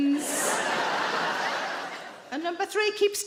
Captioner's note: audience laughing